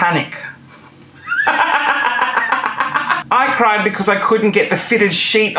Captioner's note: laughing